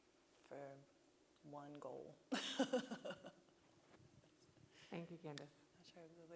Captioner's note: laughing